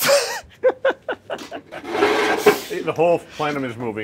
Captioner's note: laughing